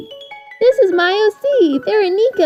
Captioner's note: annoyingly high pitched voice